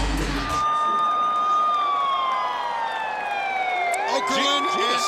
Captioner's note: siren wailing